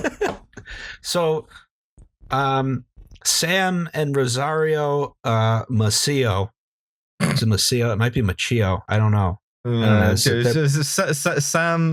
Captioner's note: laughter